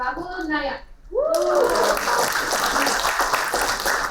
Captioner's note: applauding